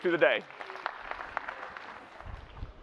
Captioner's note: applause